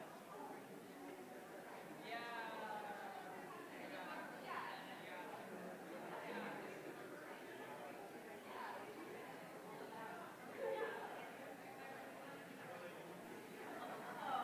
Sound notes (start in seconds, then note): 2.1 indistinguishable chatter